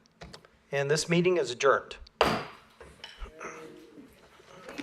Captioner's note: gavel